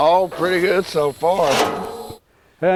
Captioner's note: trash clattering